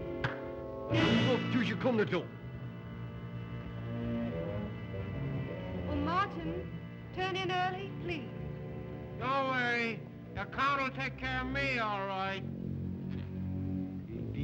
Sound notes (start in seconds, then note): 0.2 claps hands; 1.2 Zaroff speaks Russian; 1.2 sinister music; 3.4 ominous music